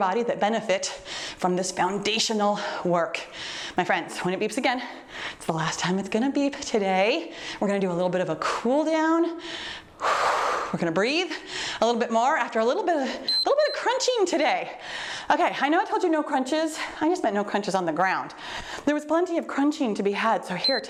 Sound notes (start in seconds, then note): 10.0 exhales deeply; 13.2 timer beeps; 20.5 timer beeps